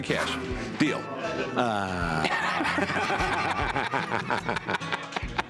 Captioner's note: laughter